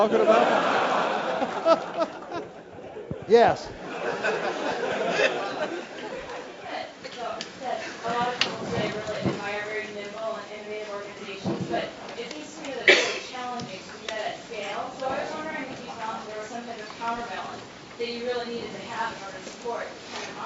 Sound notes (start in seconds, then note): 0.0 laugh